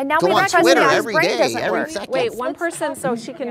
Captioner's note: overlapping chatter